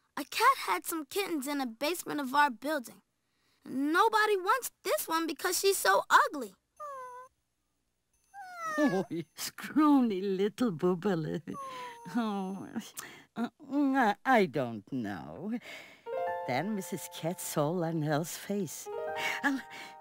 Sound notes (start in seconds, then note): 6.8 cat cries; 16.0 piano keys strum